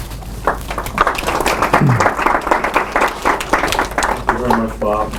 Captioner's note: applause